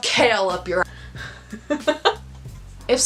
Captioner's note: laughing